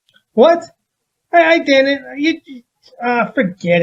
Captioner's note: stammering